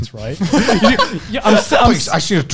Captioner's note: laughing